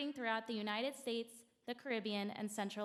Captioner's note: none